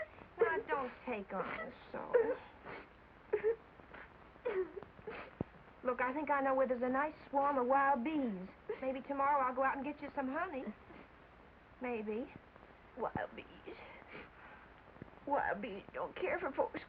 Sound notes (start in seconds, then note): none